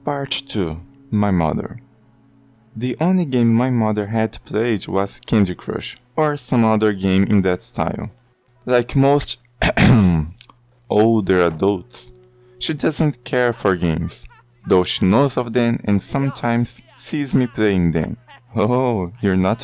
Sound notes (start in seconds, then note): 9.6 ahem